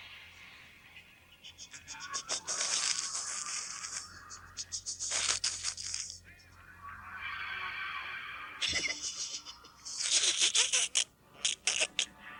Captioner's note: Gatekeeper snickers at your Fate Card